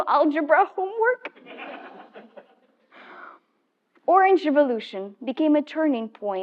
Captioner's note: laugh